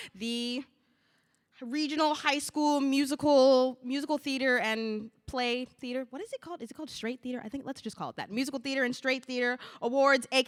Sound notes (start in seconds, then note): none